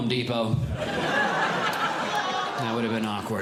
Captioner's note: audience Laughing